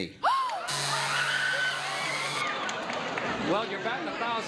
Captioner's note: buzzer sounds, audience screams; gasps